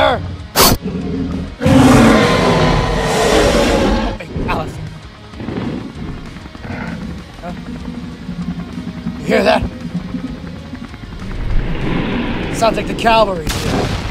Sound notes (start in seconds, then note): 0.3 T-Rex Snorts and Growls; 4.9 whirling Chopper Rotor Blade Sounds